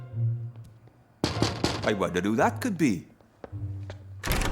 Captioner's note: knock at Door